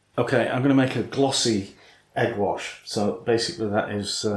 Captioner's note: none